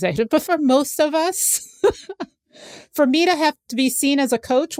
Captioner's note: laughs